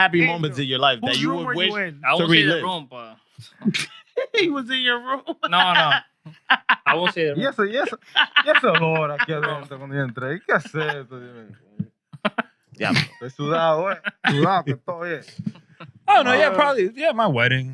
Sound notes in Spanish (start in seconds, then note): 6.2 Riendo; 7.4 Hablando en idioma extranjero